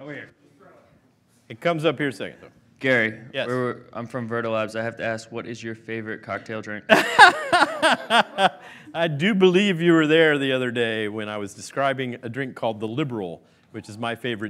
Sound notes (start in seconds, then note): 8.5 laughing